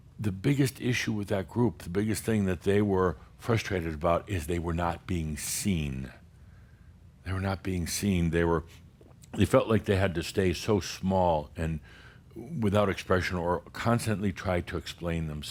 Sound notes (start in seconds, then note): none